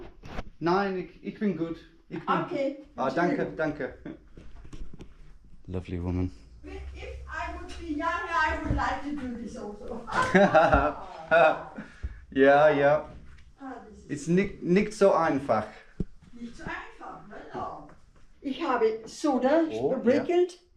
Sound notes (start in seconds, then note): 10.1 both laugh